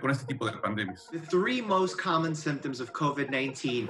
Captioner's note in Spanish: hablando en inglés